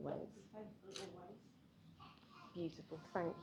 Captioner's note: none